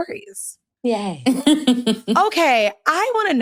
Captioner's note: chuckles